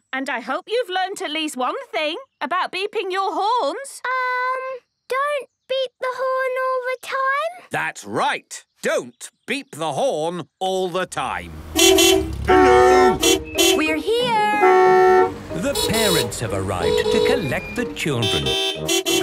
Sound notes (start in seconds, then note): 11.4 beeping; 14.3 beeping